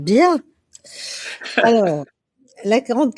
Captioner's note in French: rires